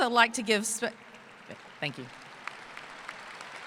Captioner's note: applause